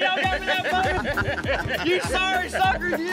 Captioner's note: laughter